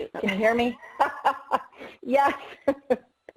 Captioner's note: laughs